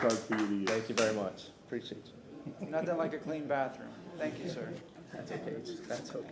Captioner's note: applause